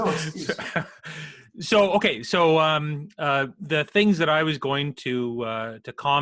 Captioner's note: laughs